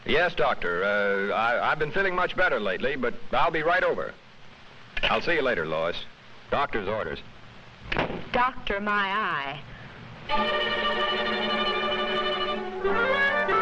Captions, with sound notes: - Yes, Doctor, I've been feeling much better lately, but I'll be right over. I'll see ya later, Lois. Doctor's orders. (door thuds) - Doctor, my eye. (suspenseful music)